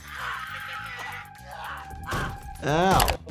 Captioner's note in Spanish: personaje gritando